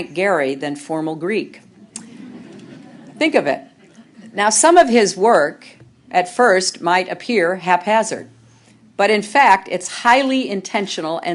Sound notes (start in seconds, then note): 1.8 laughter